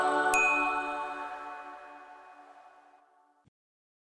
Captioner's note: bell tinkles